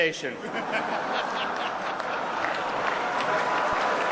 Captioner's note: laughter and applause